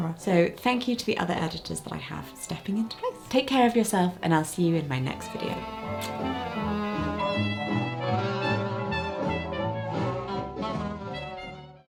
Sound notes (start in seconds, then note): 4.9 upbeat music; 5.9 lip smacking